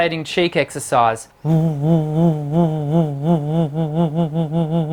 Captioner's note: humming